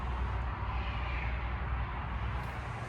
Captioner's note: none